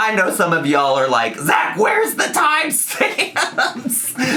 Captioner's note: laughs